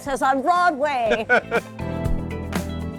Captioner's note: laughing